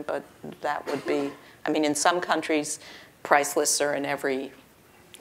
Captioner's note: cough